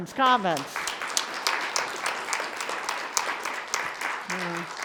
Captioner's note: audience applauding